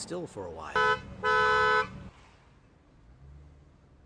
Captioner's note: honking